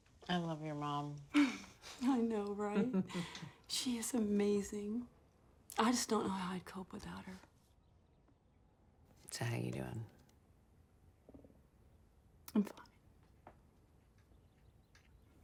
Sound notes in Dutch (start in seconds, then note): 1.8 grinnikt